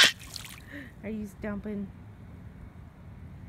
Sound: gasp

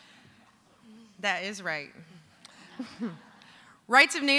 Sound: laughter

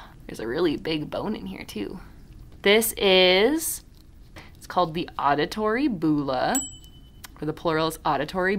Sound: ding

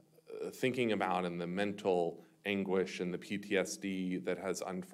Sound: none

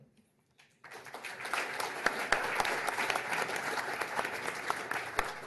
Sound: applause

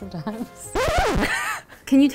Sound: screeching sound; laughing

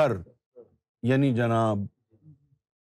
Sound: in Urdu

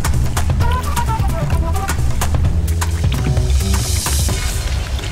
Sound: water splashing

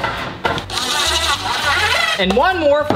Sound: machine drilling

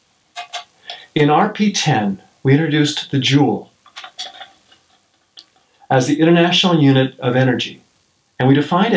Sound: handshake

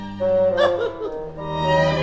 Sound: larry giggles

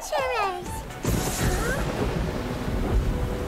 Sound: thunder booming

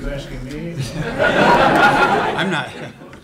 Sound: laughter

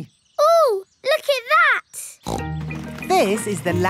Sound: snorts

